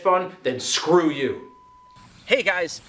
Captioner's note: high pitched tone blares